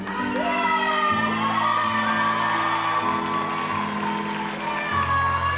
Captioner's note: audience applauds; audience cheering continues